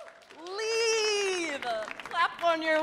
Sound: audience claps

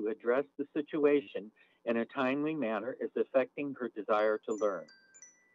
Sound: chime

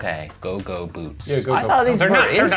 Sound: laughs

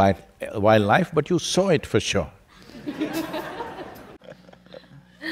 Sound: laughter

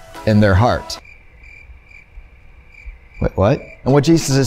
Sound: crickets chirping

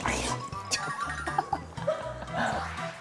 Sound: he can't hold back his laughter

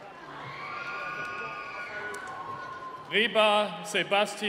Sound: screaming

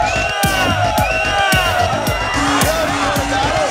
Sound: cheering

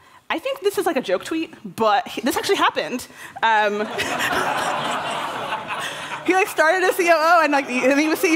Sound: laughter

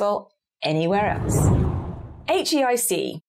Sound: screen whooshes

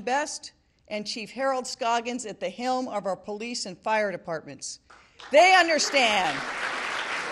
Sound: applause

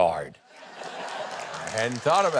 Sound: audience laughs

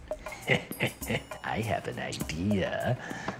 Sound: darkly chuckling

